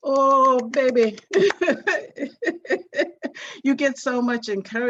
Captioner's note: clapping; laughing